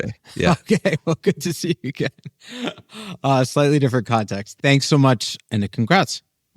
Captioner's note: laughs